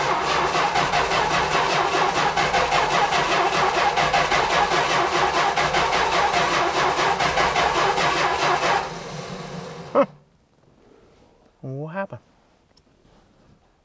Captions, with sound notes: (ignition stutters) (engine quits) Huh. What happened?